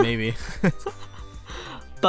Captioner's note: giggles; chuckles